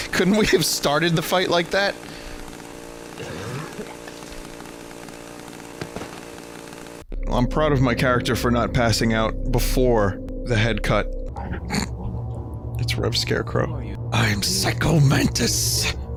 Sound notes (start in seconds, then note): 3.1 vomits; 11.7 snorts